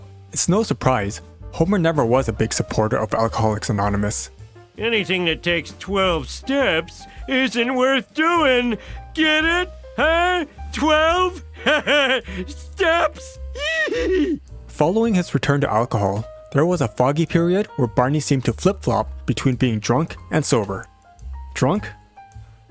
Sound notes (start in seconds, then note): 11.6 laughter; 13.5 giggle